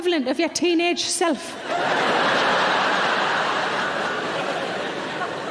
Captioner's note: audience laughing